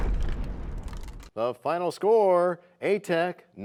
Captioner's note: crashing sound